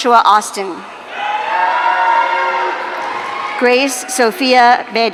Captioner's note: audience cheering